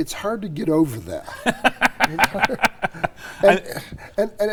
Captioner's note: laughing